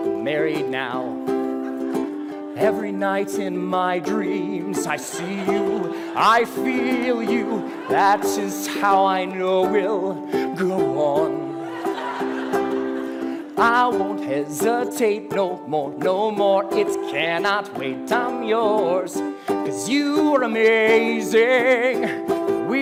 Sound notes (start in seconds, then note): 7.9 risos; 14.4 risos; 22.0 risos